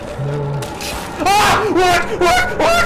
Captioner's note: screams